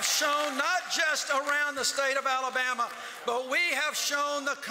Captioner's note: cheers and applause